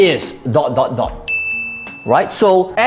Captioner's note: bell dinging